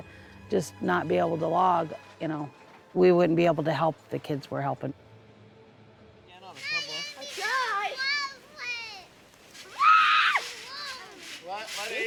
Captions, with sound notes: If we was to just not be able to log, we wouldn't be able to help the kids we're helping. (kids yelling)